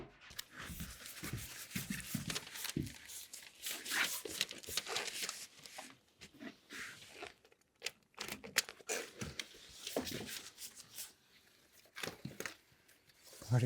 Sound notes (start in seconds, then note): 0.3 paper rustling